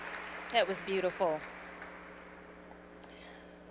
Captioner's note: applause